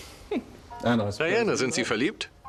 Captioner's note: Diana laughs; voiceover